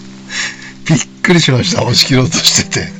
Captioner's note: laughs